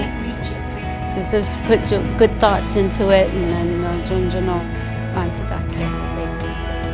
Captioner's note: speaking navajo